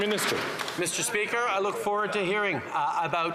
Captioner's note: some Applause